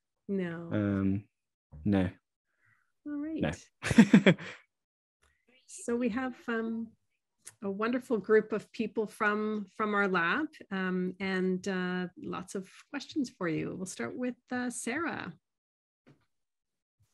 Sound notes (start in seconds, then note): 3.8 chuckling